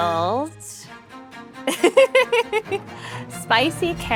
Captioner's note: laughs